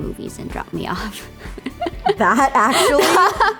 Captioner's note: laughs